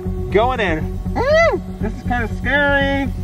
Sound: screams

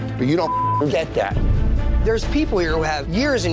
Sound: beep

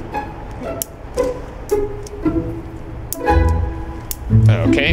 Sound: whimsical music; lighter flicks

